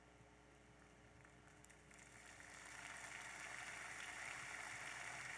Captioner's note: audience applauding